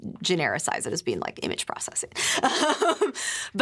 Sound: laughs

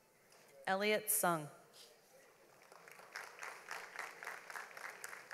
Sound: audience applauds

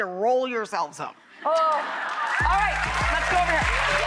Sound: audience applause; upbeat music

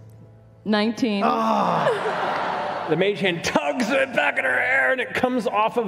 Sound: groans

